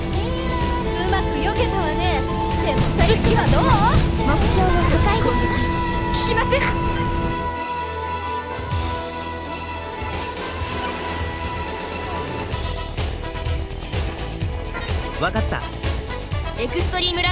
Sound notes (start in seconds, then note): none